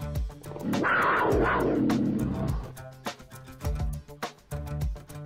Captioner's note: wildcat ROARs